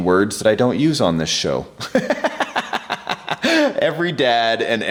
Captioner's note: laughing